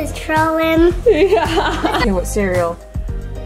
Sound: laughs

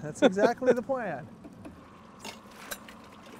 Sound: chuckling

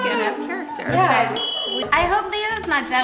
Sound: single chime

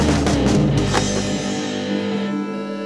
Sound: click; MPC startup sound

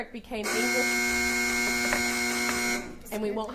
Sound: long buzzer sounding

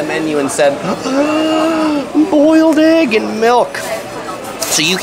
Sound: gasps

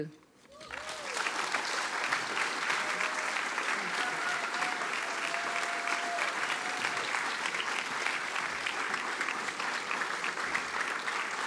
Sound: applause

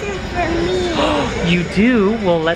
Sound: gasps

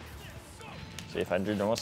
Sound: Richter yells

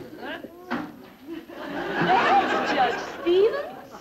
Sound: audience laughter

